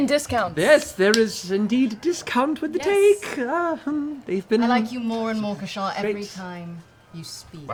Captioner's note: nervous laugh